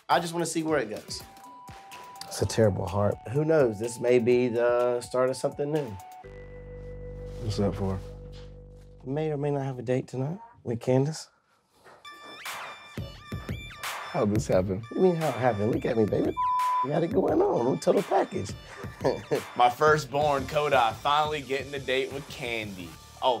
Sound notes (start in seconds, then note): 16.3 beep; 18.6 chuckles